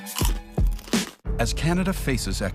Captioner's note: Crunch